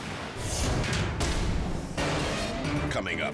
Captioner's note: graphic booming